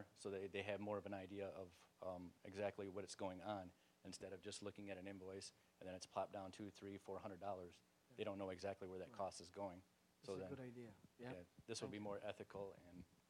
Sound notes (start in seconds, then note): none